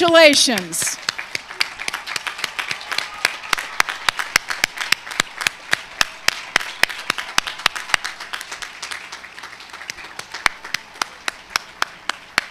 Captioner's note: cheers and applause